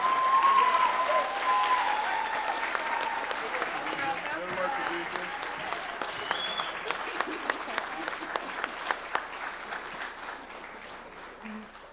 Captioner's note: applause